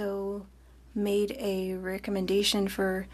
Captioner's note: speaking French